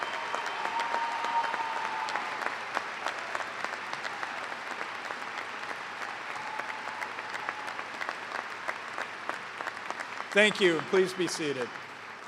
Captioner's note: cheers and applause